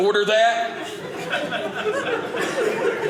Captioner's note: audience laughing